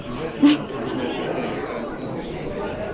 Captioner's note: laughs